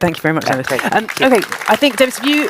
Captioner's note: applause